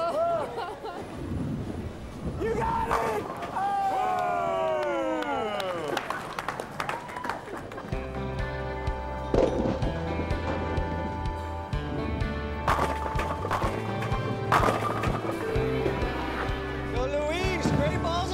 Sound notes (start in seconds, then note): 2.8 pins crash; 6.7 crowd claps; 8.0 upbeat music; 8.6 pins crashing